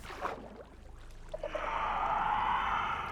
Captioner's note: shrieker noise